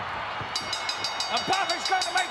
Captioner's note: ring bell dinging